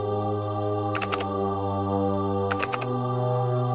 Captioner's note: keyboard sounds